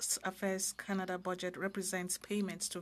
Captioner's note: speaking french